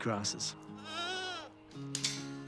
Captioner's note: bleats